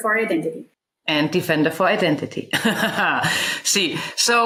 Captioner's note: laughs